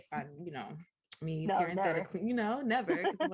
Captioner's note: laughter